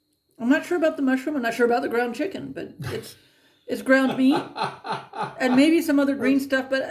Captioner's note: laughing